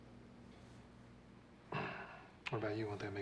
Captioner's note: clears throat